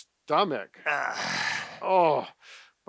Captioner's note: grunting